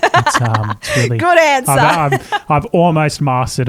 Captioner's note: laughs